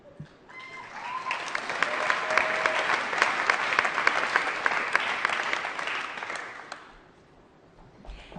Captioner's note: applause